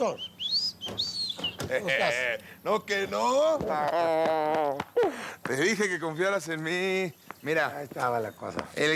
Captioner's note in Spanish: Silbidos